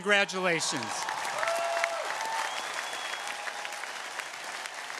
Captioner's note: audience cheering